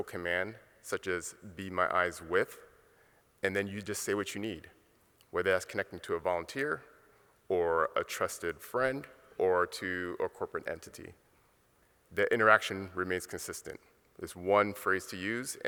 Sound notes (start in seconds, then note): none